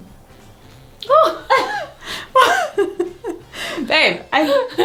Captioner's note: laughing